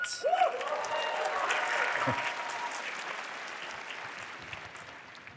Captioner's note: applause